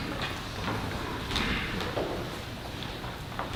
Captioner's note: footsteps